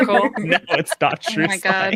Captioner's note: laughter